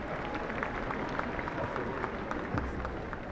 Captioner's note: applause